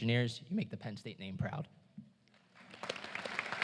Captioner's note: applause